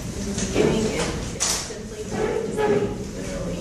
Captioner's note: chairs moving